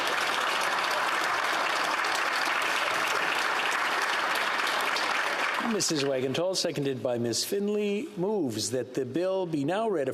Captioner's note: some Applause